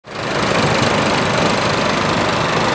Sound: mower noise

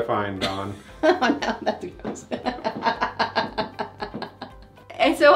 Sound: chuckling

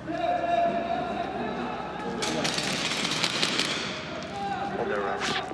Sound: gunfire

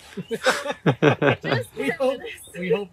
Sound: laughter

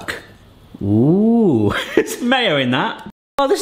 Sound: laughs

